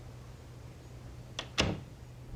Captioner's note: door Closes